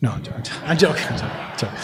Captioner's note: laughter